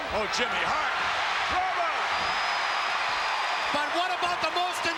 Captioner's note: crowd cheers